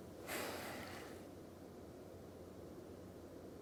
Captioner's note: exhaling